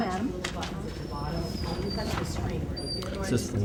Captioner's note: crowd talking